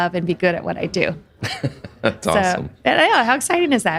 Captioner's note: laughs